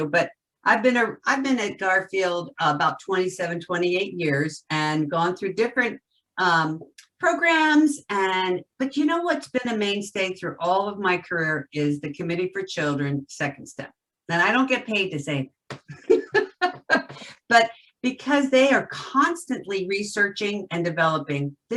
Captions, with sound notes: but I've been at Garfield about 27, 28 years and gone through different programs and, but you know what's been a mainstay through all of my career, is the Committee for Children Second Step. That I don't get paid to say (laughs loudly) but because they are constantly researching and developing.